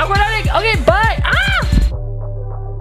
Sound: screaming

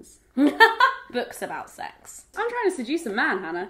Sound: laughing

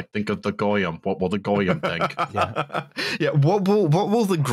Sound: laughs

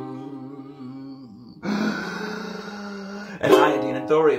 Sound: gaaaaaaaaasp

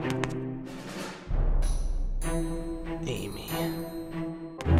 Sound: none

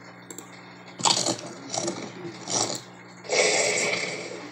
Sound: crunching

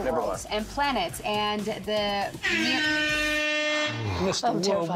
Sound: buzzer sounds

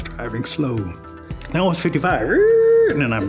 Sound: impression of braking car

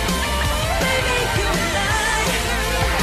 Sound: laughing

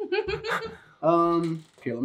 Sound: Elsie laughs

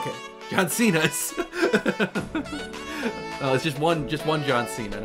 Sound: laughter

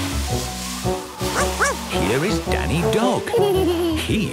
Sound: barking; laughing

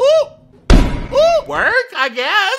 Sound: ball smacking

